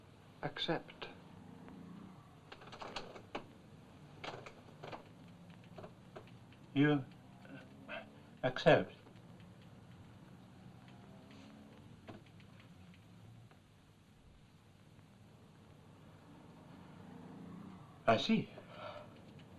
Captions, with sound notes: accept. (chair creaks) - You...accept? I see.